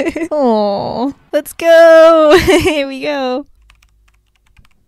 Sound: laughs

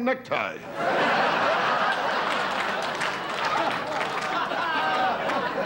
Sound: audience laughter

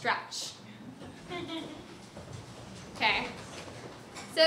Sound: audience laughs

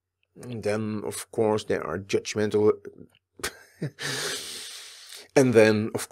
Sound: laughs

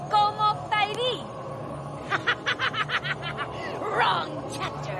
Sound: laughing

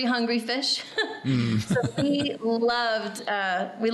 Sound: laughing

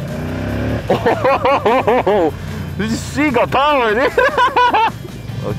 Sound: laughter

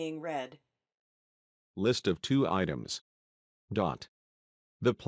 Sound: machine voice

